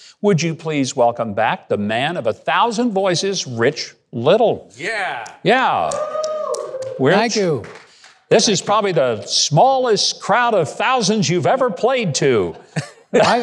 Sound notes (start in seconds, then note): 5.8 clapping